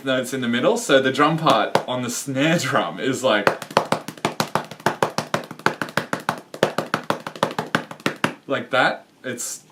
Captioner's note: furious chest drumming